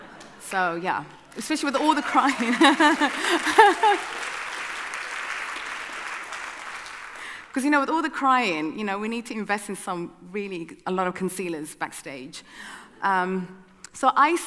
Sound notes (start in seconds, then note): 1.6 audience cheering; 1.8 laughing